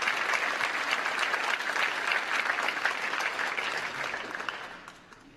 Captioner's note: applause